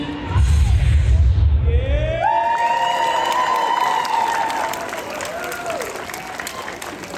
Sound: audience cheers

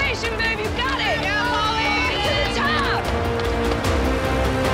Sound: everyone cheering

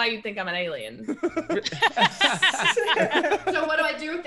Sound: laugh

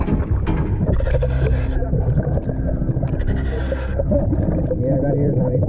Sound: water bubbling

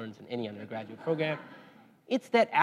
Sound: laugh

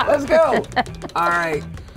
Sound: laughs; wheel pegs clicking

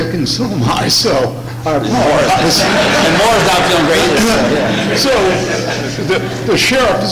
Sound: laughter, crosstalk; laughter

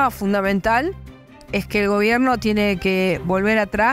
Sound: spanish words

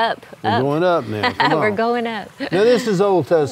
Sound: chuckles

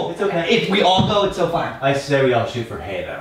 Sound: voiceover

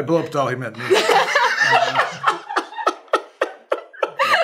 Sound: laughter

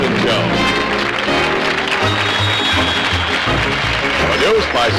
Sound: applause

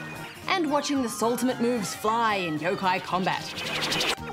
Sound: ping! whoosh!

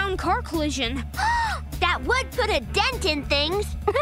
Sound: gasping; laughing

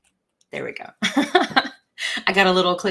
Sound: laughs

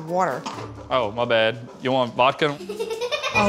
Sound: girl giggles

